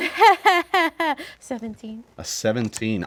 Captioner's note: laughing